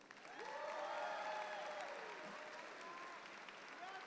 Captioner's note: audience applauds